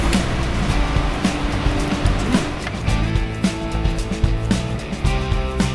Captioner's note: motor cuts off again